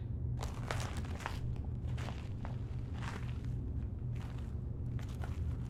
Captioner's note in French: craquement provoqué par les pas